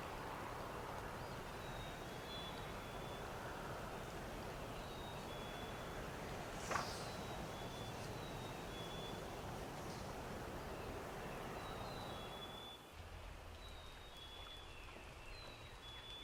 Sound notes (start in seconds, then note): 2.4 rain trickling